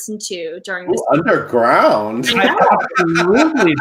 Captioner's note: laughs